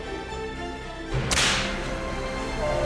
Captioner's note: whip cracks